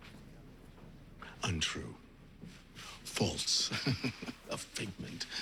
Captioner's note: chuckles